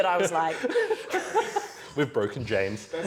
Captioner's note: off screen laughter